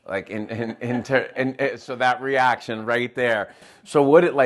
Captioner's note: laughing